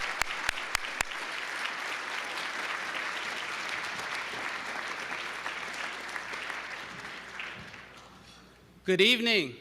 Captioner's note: applause